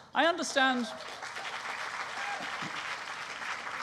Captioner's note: applause